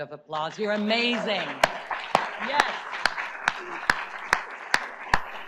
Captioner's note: audience applauds